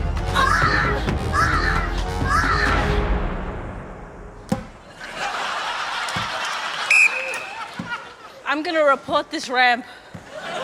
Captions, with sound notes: Aaagh! Aaagh! Aaagh! (LAUGHTER) (BLOWS WHISTLE) I'm gonna report this ramp...